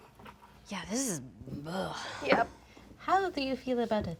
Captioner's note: sighs in disgust